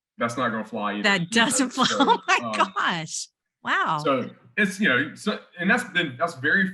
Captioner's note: laughs